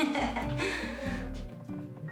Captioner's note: chuckling